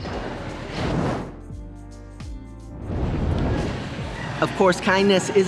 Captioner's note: transition screen whooshing